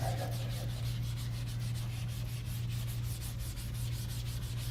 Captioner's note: erases whiteboard